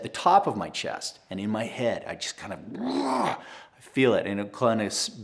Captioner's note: growls